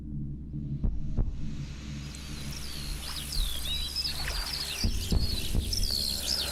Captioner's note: water flowing